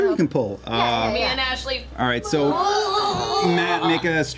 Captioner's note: straining noises